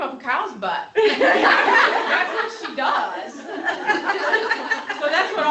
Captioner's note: laughter